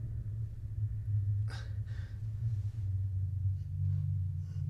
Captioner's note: Willem grunting